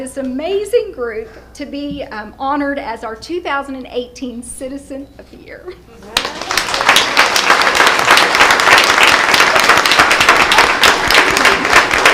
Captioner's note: applause